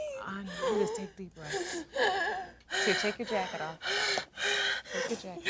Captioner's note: breathing deeply